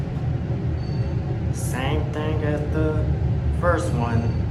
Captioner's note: floor Passing Chime